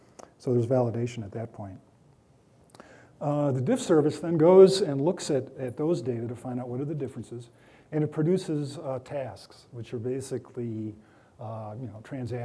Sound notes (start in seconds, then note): none